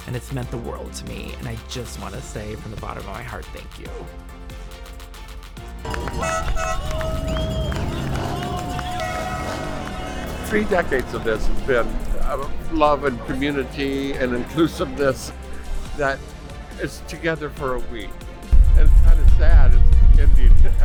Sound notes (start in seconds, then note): 5.8 horns blaring; 6.6 crowd chattering